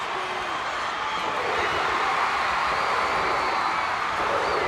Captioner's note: audience roars